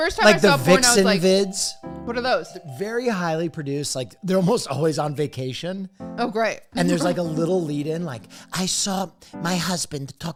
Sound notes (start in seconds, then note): 8.2 in a vaguely European accent